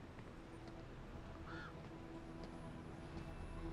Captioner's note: bird cawing